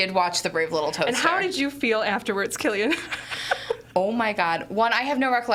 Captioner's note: laughs